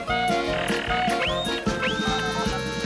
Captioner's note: machine beeps